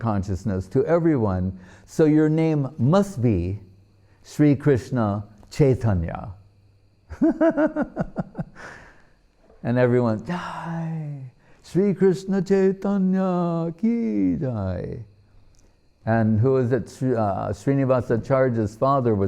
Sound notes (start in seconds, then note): 7.1 laughing